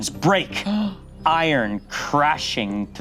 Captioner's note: gasps